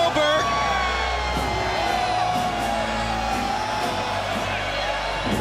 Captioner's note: crowd cheering continues